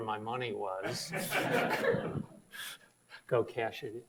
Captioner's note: audience laughs